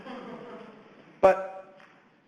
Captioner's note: audience chuckles